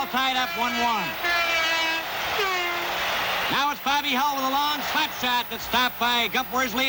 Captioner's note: horn blares